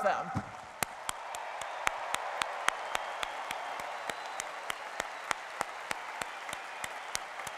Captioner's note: cheering and applause